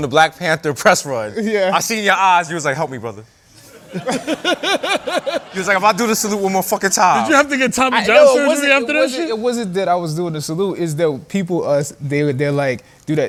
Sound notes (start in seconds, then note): 3.6 laughter